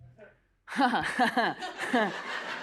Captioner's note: laughs